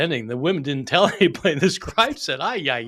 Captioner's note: chuckling